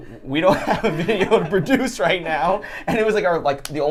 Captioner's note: laughs